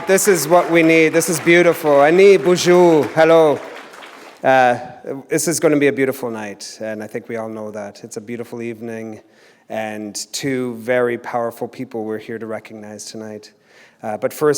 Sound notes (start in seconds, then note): 2.6 foreign language